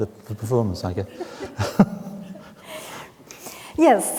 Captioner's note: both chuckling